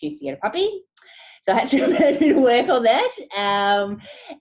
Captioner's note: laughing